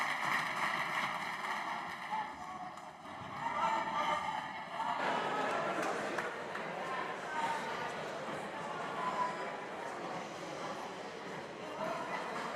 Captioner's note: applause